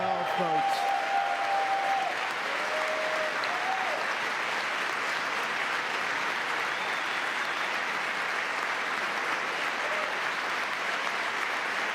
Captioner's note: cheering